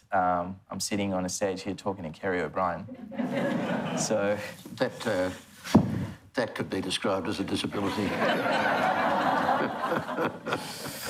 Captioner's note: laughs